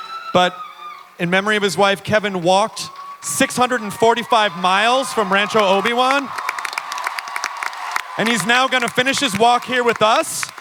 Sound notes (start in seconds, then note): 6.4 applause